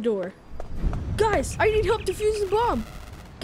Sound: comms static

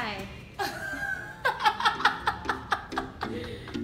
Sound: laughs

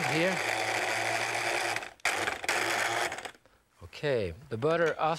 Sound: machine whirs

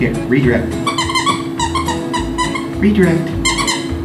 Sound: toy squeaking

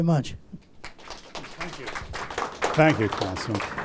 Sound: applause

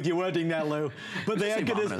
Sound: laughter

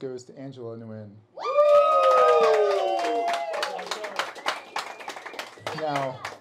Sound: cheering

